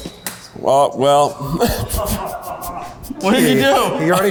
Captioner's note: egg cracks; laughing